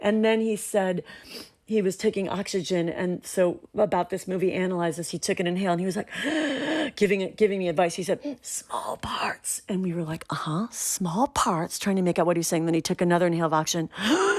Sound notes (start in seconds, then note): 6.1 inhaling